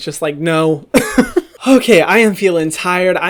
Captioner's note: laughs